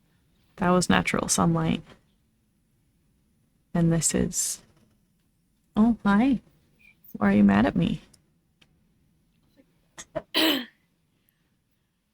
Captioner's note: clears throat